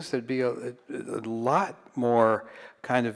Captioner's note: none